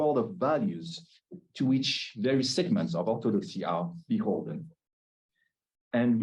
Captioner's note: Hebrew